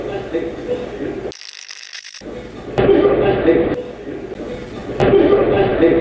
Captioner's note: radio scratching; radio voice